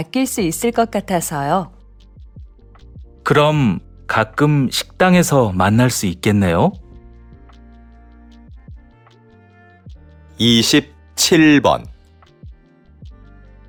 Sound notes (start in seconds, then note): 10.4 Korean audio